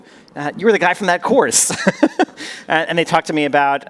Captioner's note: laughs